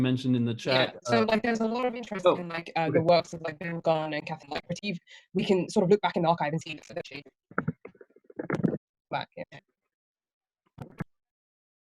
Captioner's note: audio freezes